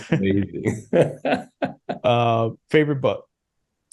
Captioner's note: both laugh